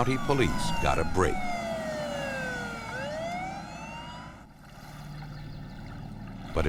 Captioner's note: sirens